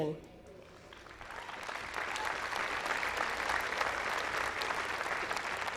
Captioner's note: audience applauding